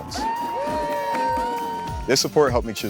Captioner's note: cheering